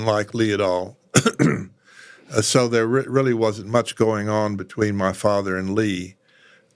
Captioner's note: cough